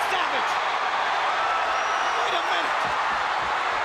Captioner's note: crowd cheering